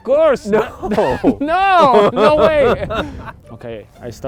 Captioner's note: laughs